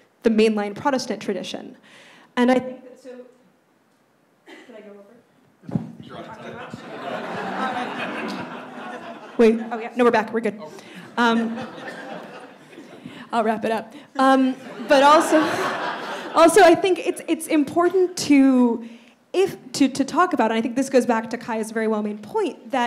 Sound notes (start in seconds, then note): 6.1 audience laughs; 14.5 laughs